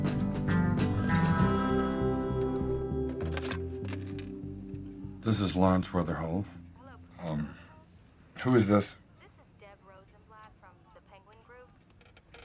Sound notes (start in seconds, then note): 1.0 PHONE RlNGlNG